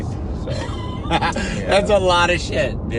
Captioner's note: laughs